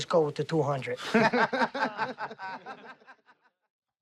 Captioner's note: laughter